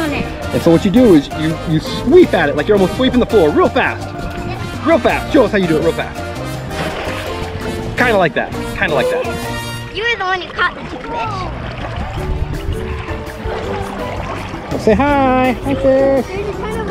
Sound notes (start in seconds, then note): 7.0 water splashes; 8.8 laughs; 12.9 water splashing